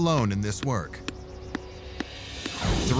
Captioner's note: soft thuds